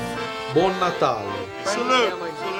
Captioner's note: speaking italian